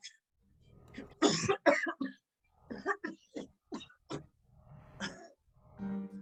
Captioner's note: coughs